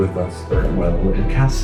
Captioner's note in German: dramatische Musik; in einer Fremdsprache